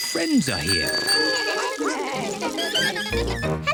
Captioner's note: all chatter